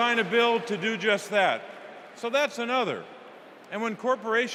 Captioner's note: cheers and applause